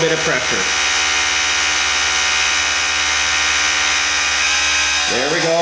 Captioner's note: mechanical whirring